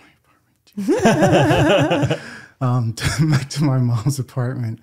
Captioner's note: laughing